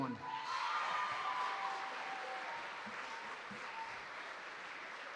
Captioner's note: applause